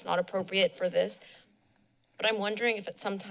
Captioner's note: pause